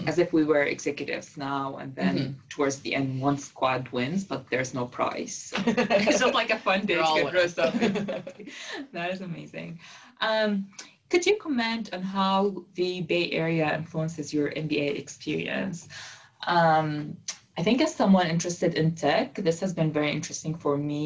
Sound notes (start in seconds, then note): 5.5 laugh